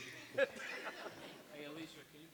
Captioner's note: audience laughs